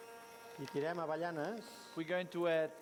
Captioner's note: non-english speech